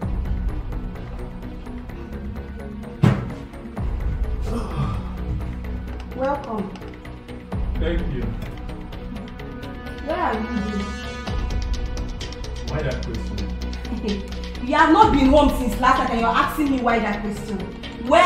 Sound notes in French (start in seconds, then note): 13.8 rire